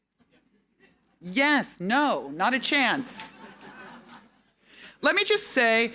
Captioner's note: audience laughing